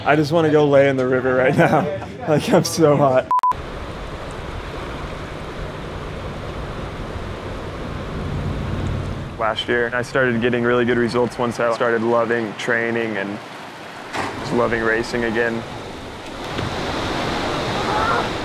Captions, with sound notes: I just wanna go lay in the river right now. Like, I'm so hot. (camera beeping) Last year, I started getting really good results once I started loving training, and just loving racing again. (water splashing)